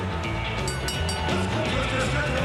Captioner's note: bell rings